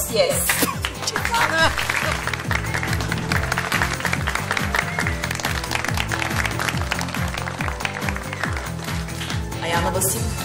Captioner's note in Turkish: Alkış sesi